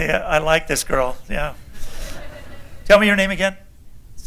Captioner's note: laughter